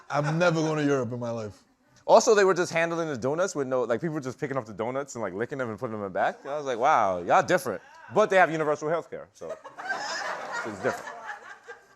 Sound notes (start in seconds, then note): 9.4 laughter